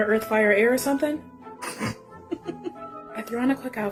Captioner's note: chuckling